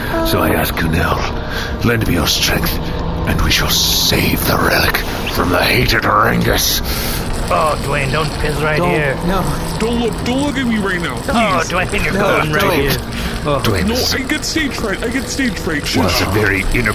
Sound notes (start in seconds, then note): 7.7 pulls down pants, pee stream